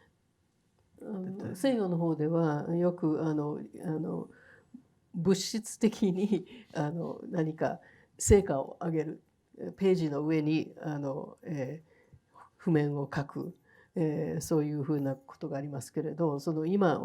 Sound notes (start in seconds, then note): 1.7 speaking in foreign language